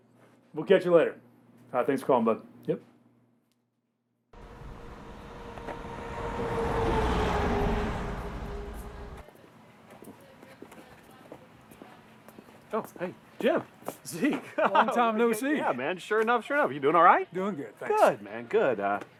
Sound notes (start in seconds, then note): 3.9 street din; 8.9 footsteps